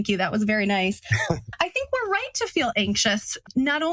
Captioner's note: laugh